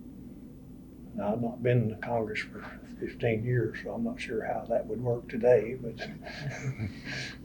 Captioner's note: laughs